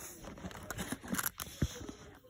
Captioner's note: rubik's cube sounds